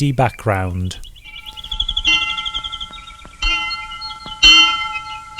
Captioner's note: bell tolls